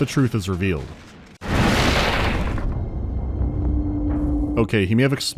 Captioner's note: racket of exploding boxes, menacing music